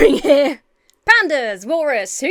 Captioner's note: Emma laughs